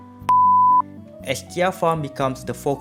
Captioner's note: beep